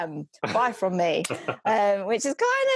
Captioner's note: laughs